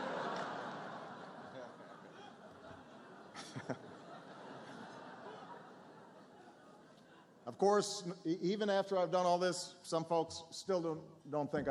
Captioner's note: laughter